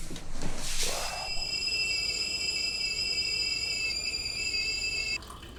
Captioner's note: kettle sound